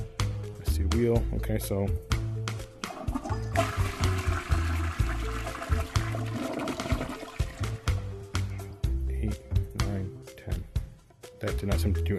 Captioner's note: flush